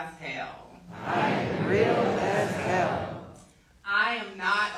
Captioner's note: crowd